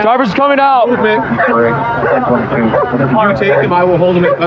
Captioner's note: radio ctter